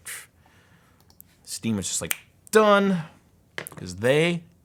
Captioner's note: snaps